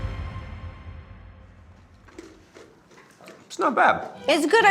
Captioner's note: all crunching